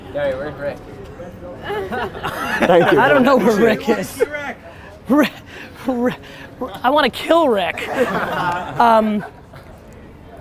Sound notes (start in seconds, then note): 7.4 group laughter